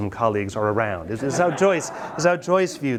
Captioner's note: students laugh